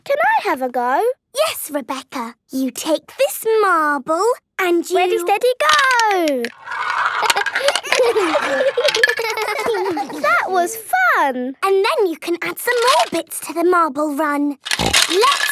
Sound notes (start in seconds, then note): 7.9 all giggling